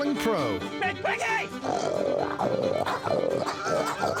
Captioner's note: imitates a hog grunting; laughs